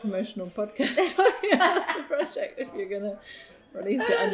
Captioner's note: both laugh